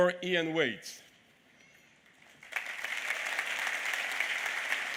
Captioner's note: applause